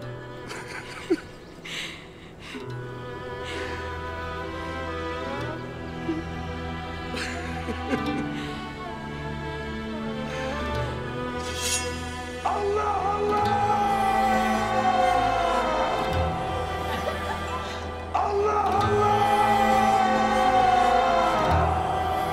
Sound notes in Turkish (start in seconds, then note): 0.4 Gülme sesi; 2.0 Müzik - Duygusal; 7.1 Gülme sesi; 11.4 Kılıç çekme sesi